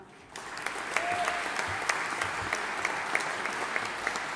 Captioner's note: audience applauding